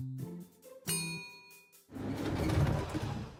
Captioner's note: ding